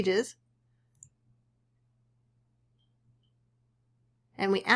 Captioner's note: silence